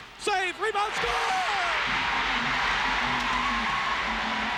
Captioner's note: crowd cheering